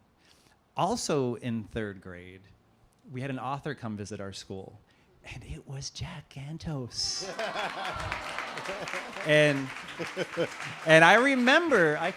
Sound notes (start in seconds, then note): 7.2 applause